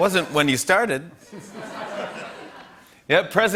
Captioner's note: laughter